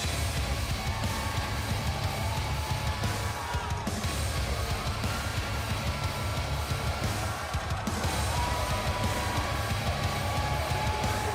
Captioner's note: crowd cheering